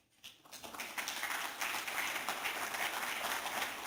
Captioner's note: applause